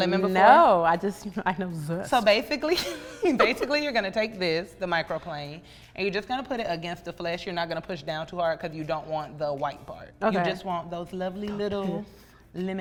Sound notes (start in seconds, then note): 2.8 laughs